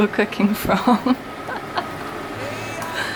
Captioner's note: laughs